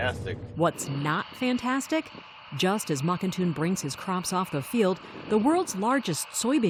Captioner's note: voice-over